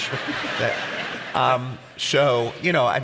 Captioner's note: audience laughs